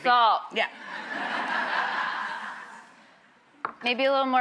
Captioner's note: laughing